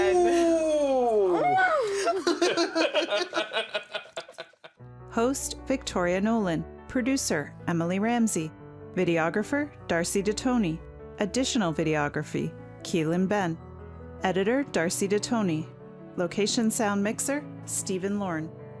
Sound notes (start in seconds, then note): 1.8 laughter; 3.9 piano music